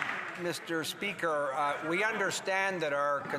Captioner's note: some Applause